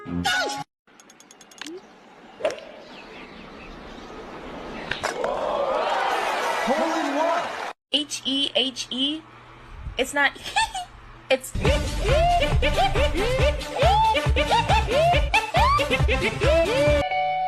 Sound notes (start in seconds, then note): 10.4 laughter